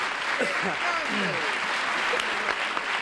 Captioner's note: applause